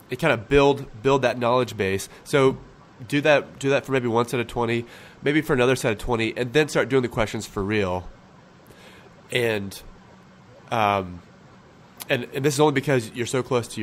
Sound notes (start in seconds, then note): none